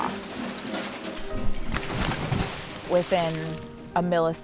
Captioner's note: crashing